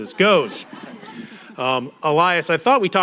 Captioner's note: audience laughing